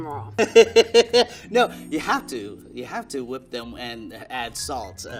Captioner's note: laughing